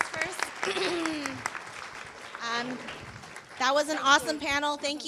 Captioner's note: clapping